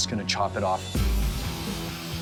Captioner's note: sparks flying